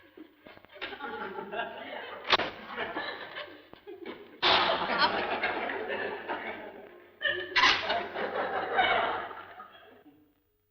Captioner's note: laughing